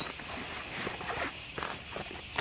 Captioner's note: rustling in bag